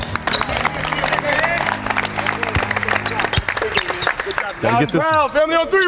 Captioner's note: clapping